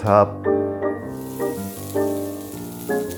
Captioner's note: sizzling